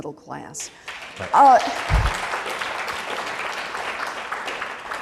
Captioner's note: applause